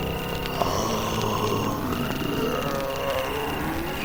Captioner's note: zombies growling